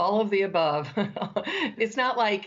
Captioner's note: laughter